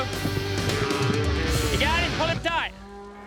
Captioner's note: cow moos